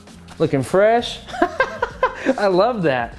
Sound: laughs

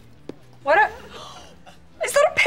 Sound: gasping

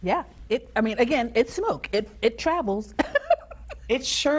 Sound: chuckles

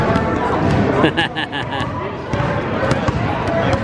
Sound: laughs

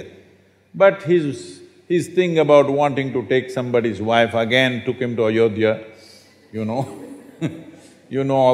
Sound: laughs

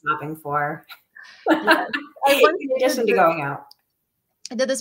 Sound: laughter

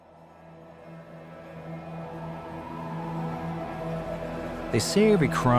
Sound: distant police sirens

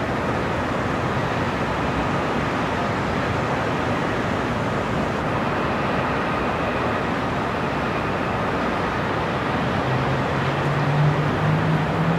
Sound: sound of distant cars and city noises

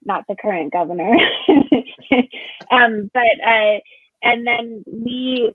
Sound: chuckles

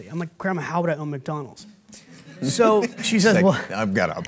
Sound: and Audience laughing

